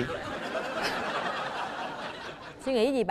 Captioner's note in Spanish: risas